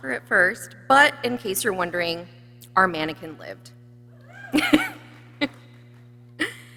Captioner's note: laughs